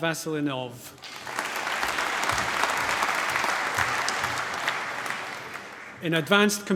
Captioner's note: applause